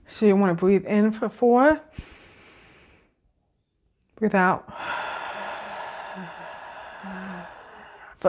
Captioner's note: breathing in; exhale